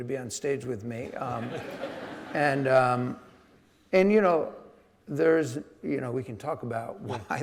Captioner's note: audience laughing